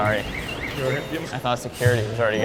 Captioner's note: alarm beeping